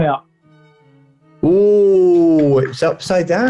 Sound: applauds

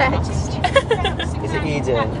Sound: laughs

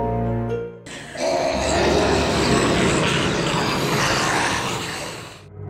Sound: zombies growling

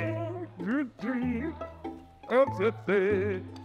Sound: woodman hums; bright music

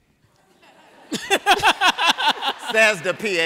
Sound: laughter

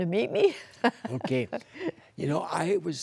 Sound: laughter

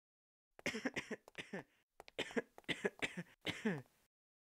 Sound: coughing again

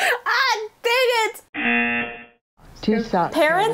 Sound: buzzer rings

